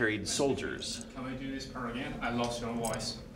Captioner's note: male Voice